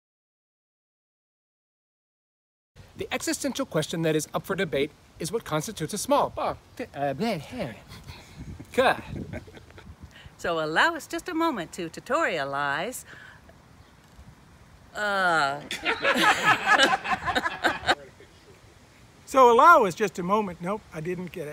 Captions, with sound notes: The existential question that is up for debate is what constitutes a "small." Bob, set them..bleh bleh...cut! So allow us just a moment to tutorialize...uhh... [Laughter] So allow us just a moment...nope, I didn't get it.